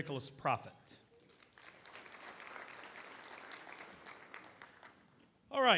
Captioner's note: applause